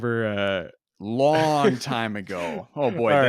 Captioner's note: laughs